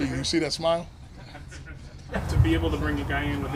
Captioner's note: journalists laughing